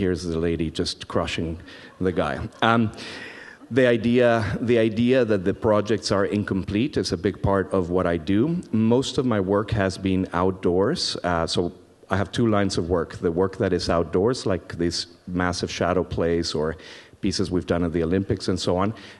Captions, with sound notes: And here's the lady just crushing the guy. (audience laughs) The idea that the projects are incomplete is a big part of what I do. Most of my work has been outdoors. So I have two lines of work, the work that is outdoors, like these massive shadow plays or pieces we've done at the Olympics and so on,